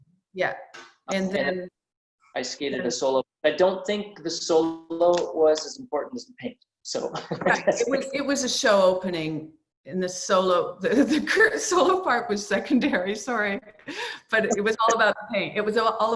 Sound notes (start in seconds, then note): 7.0 laughs